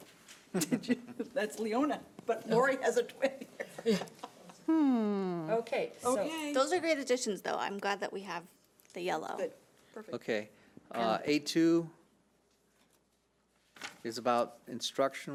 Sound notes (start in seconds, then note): 0.5 chuckles; 3.2 laughing